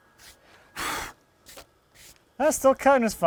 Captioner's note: blowing air